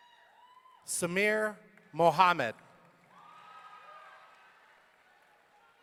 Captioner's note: audience cheering